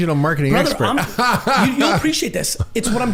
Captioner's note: laughing